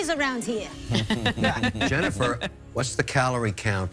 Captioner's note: Sharks laughing